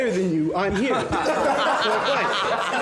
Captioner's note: students laughing